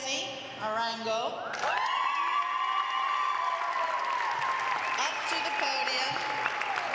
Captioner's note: applause